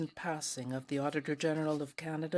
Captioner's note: speaking French